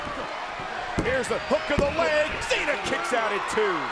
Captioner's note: hands thudding